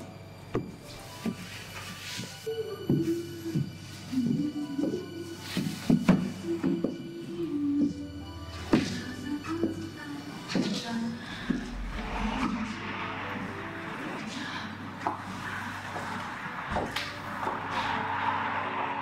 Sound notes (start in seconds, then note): 0.7 footsteps Fade Away